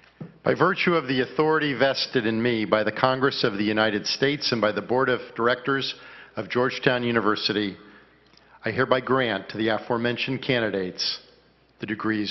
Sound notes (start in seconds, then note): none